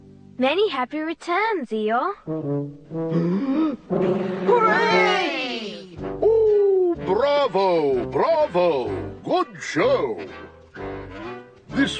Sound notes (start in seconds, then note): 3.1 inhales, then exhales